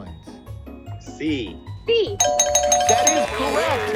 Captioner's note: animals applauding